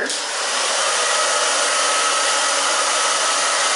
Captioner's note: blow dryer